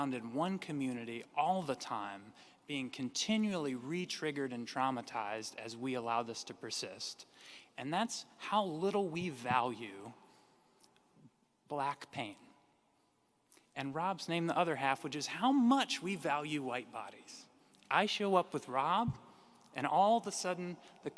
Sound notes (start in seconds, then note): none